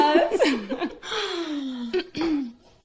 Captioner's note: coughs